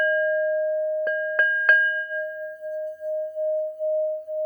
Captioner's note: dinging